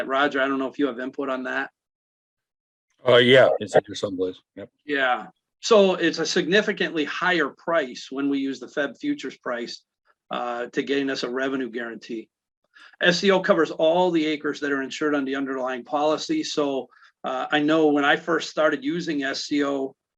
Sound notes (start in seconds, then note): 3.8 faintly speaking